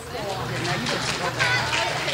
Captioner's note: clapping